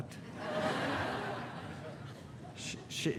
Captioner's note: audience laughing